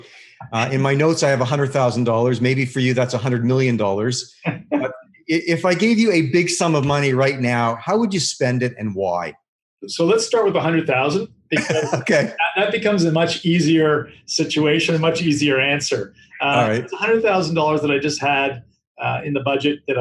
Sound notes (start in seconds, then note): 4.4 laughing; 11.5 laughing